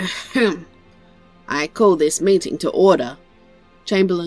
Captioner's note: ahem